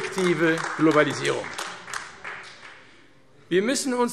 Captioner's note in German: Beifall AfD